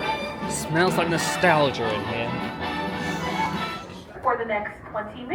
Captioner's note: sniffs